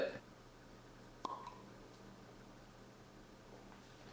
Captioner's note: wine uncorking